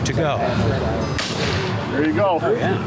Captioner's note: gun banging